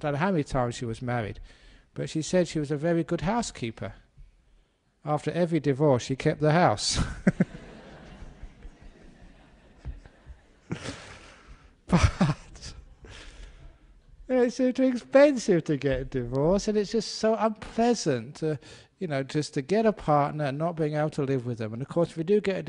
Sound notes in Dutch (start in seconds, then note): 7.0 lachen